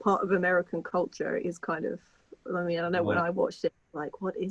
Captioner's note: chuckling